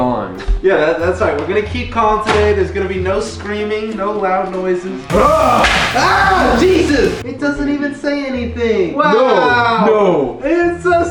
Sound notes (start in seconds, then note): 5.0 screams; 5.1 slamming noise